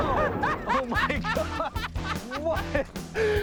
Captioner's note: laughs